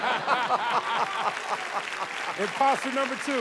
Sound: laughter; cheers and applause

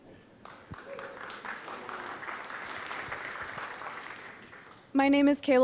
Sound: applause

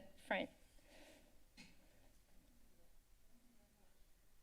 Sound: breathing sound

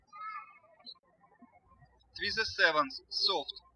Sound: birds chirping

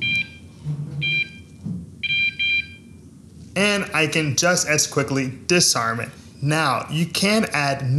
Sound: beeping

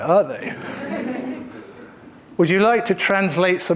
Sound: audience laughing

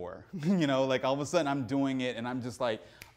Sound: laughs

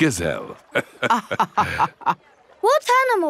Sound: both laughing

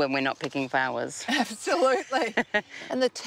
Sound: laughs

